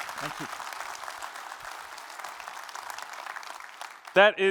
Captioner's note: applause